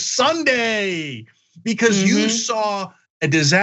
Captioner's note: laugh